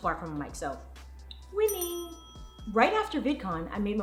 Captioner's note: bell rings